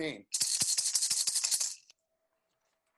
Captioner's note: rattles